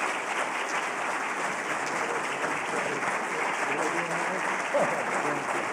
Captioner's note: applause